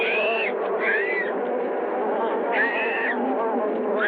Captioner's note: screaming